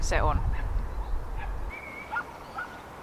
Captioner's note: barking